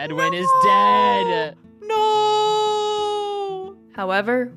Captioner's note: cries of anguish